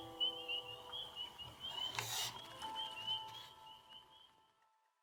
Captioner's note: frogs peeping